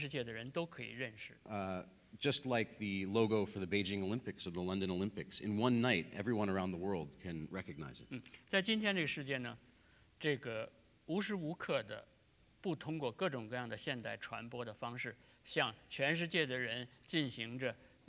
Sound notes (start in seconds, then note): 11.2 speaking in Chinese